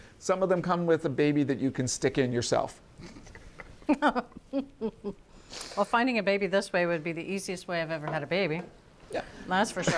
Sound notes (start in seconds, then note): 3.8 laughs